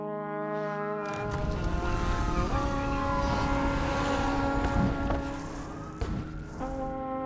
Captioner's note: distant sirens